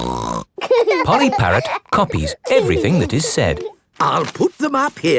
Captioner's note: laughing